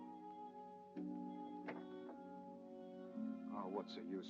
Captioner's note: door closes quietly